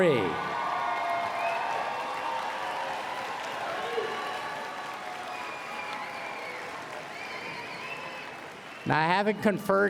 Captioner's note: applause and Cheering